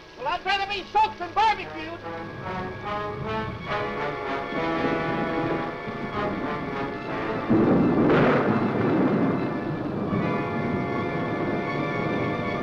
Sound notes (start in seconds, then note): 2.9 dramatic music; 7.5 thunder roaring